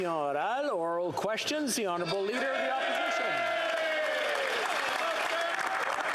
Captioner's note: applause